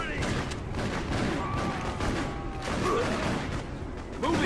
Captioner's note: guns blasting